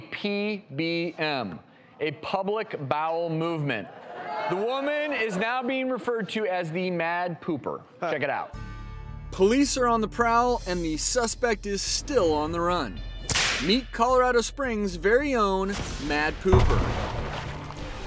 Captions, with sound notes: PBM. A public bowel movement. (audience jeers) The woman is now being referred to as The Mad Pooper. Check it out. Police are on the prowl and the suspect is still on the run. Meet Colorado Springs' very own Mad Pooper.